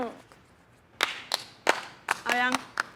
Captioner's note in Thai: เสียงตีมือ